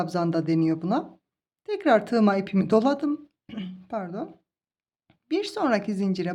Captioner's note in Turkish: boğazını temizler